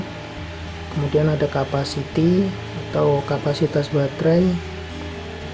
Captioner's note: amps